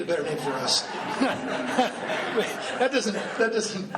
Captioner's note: laughing